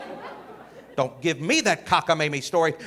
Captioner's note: audience laughing